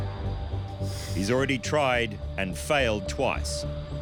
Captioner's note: breathes heavily